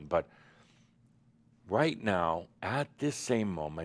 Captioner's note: none